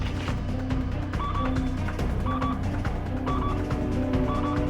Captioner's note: machine beeps